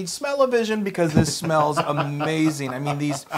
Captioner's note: laugh